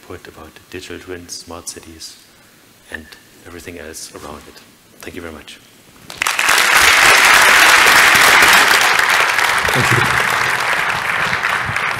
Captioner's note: clapping